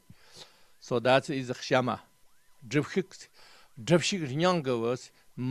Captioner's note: tibetan